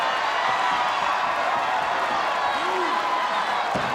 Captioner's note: audience cheering